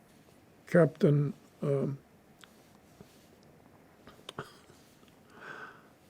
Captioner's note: pauses 6 seconds